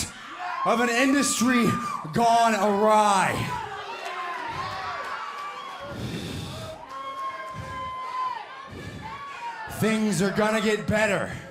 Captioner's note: crowd chatter